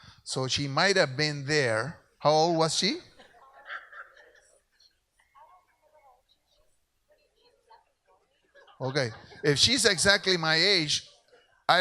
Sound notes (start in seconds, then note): 4.3 voice distorted by microphone